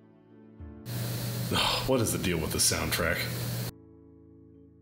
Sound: annoyed sigh

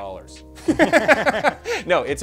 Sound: both laughing

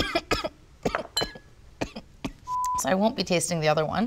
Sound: coughing

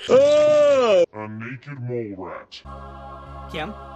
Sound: Rufus yawns; low-pitched

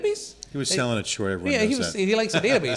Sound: chuckles

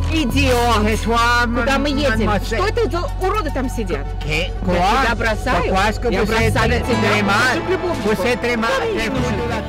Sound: and wife yelling in foreign language

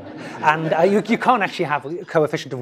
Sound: laugh

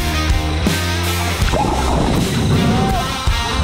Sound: water splashes; screaming

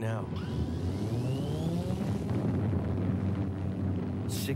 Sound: engine rumbling

